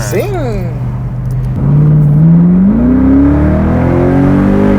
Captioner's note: engine revving